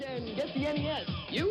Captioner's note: soundbite of archived recording